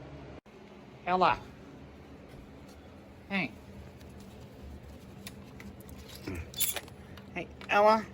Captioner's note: pet crate opens